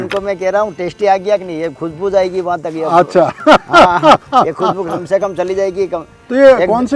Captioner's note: laugh